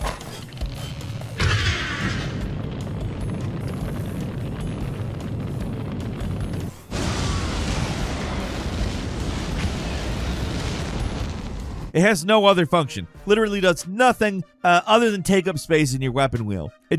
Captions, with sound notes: (flames roaring) (world explodes) It has no other function. Literally does nothing other than take up space in your weapon wheel.